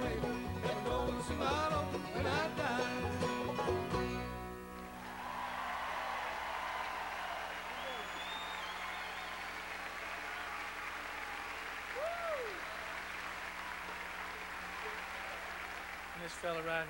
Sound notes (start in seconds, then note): 4.8 crowd cheering